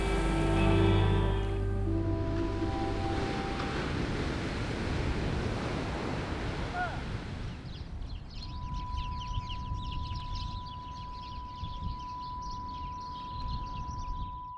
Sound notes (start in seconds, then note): 0.0 boat horn blasts; 6.2 waves crash; 7.6 birds chirp